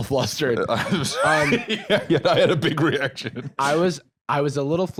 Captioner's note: laughing